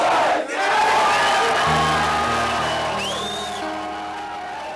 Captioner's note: cheering and whistling